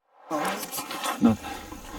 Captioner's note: air swooshes